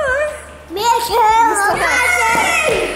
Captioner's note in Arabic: الأطفال يصيحون